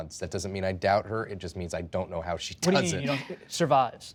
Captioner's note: laughs